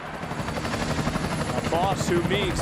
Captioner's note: helicpoter engine